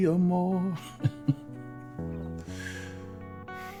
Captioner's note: laughing